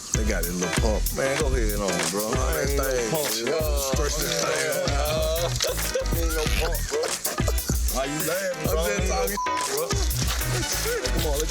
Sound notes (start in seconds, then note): 8.7 beep